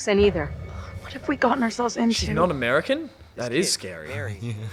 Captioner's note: sighs